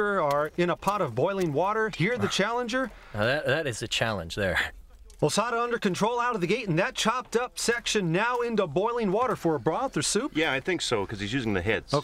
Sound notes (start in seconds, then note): none